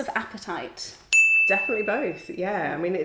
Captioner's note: bell dings